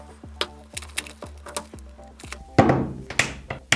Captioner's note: clay crackling; plastic packaging crinkling; clay thuds